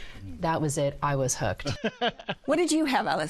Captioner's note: laughs